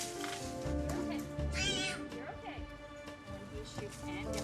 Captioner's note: cat squeals